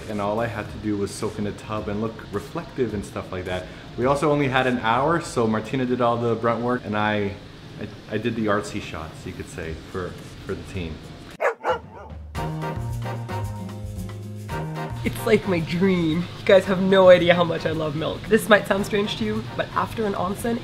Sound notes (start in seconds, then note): 11.4 bark